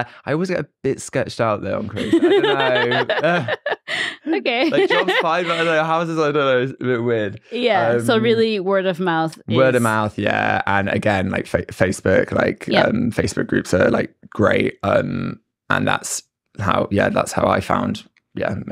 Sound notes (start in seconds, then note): 1.7 both laugh; 5.0 laughs